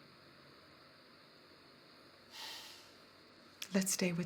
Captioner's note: exhales